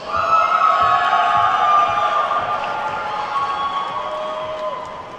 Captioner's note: attendees whooping and clapping